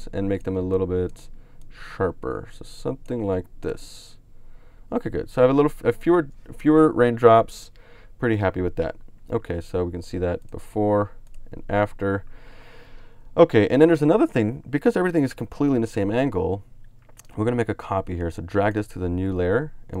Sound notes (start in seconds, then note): 11.2 clicks on mouse